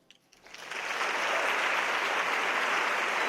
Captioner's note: applause